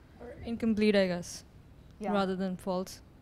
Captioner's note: voiceover